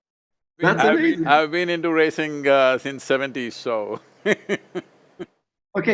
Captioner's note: laughs